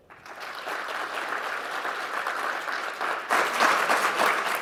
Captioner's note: applause